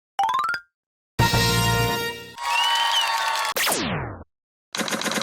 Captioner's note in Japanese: 拍手